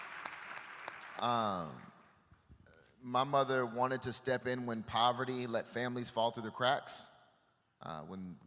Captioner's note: applause